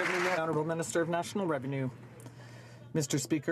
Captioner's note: some Applause